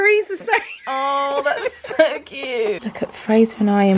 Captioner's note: laughs